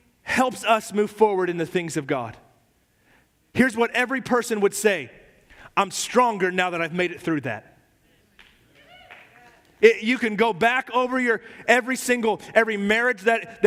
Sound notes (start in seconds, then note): 8.4 miembros de la congregación aplauden